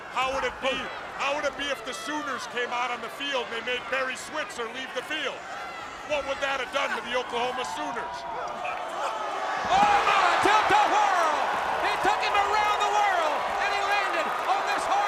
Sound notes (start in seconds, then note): 9.7 crowd cheering